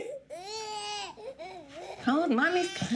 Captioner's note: baby crying